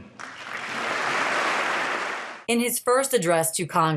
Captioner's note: audience applauding